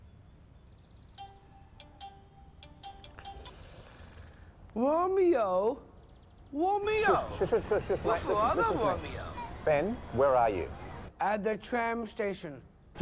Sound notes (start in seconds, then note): 0.2 phone rings; 3.2 inhales frustratedly